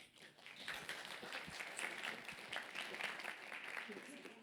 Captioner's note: applause